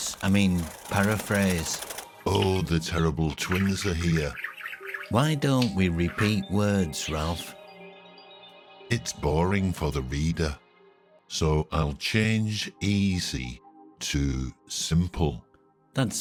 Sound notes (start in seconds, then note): 0.0 birds wings fluttering; 4.1 birds chirping